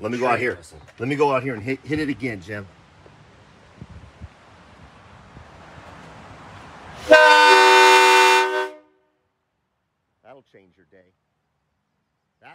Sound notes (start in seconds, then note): 7.0 elongated and loud train horn blares